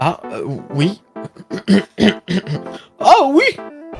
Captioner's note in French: Racle la gorge